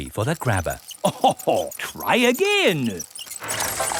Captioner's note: chuckles